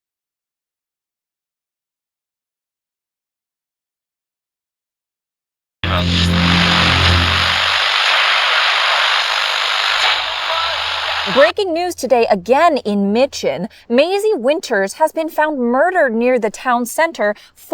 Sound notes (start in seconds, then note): 5.8 camera buzzing